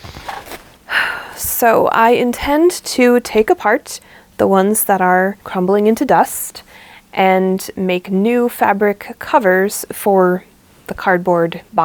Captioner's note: sigh